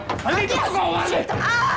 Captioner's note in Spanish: Golpes